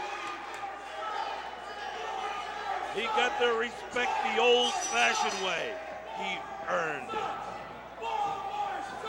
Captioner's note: crowd cheering